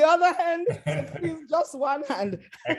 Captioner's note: laughter